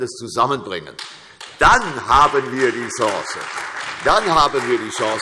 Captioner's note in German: Beifall CDU, AfD und Freie Demokraten